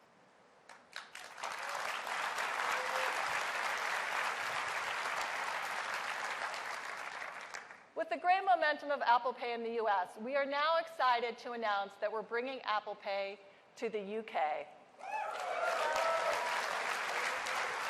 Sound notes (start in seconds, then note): 2.8 applause